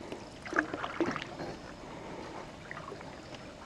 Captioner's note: water rippling